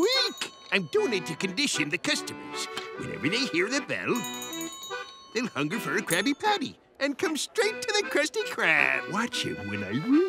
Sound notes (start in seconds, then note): 4.0 bell ringing